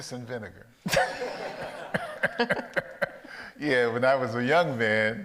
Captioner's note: audience laughs